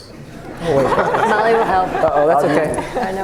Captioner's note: laughing